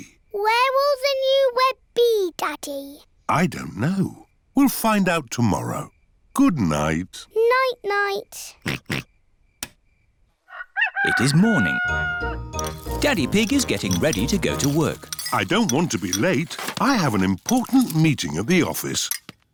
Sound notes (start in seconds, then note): 8.6 oinks; 10.4 rooster crows